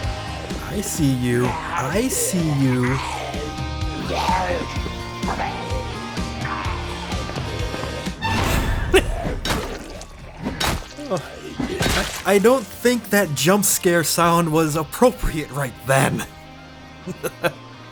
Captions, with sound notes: I see you. I see you. - (Jumpscare Sound) - (Cackle) I don't think that jump scare sound was appropriate right then.